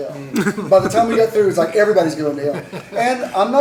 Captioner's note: laughter